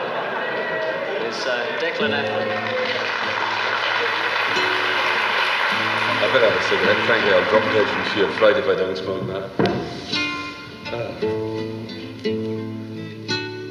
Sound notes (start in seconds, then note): 0.0 audience laughs; 3.0 people cheer; 10.9 gentle music